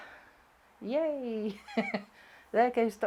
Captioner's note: chuckling